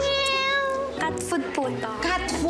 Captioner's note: meows